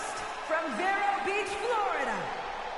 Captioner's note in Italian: Applauso